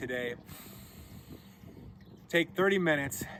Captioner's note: breathing deeply